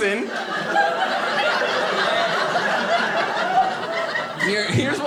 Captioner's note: audience laughing